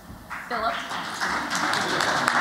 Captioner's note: �applause�